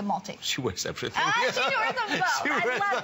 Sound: laughter

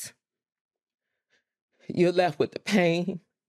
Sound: voice wavers

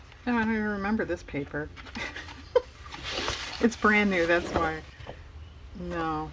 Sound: laughs

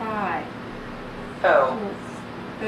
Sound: voiceover

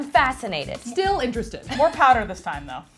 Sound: voiceover

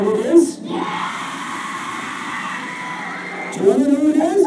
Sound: cheering

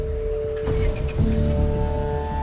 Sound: engine starts

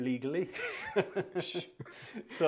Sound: laughter

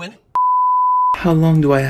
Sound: TV Color Bars Sound Effect

